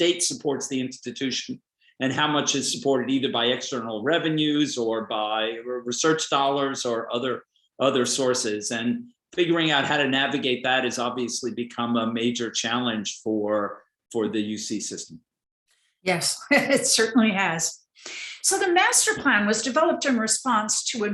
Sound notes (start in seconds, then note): 16.6 laughs